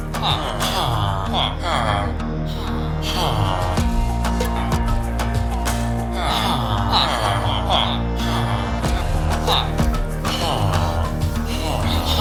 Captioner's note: villager sounds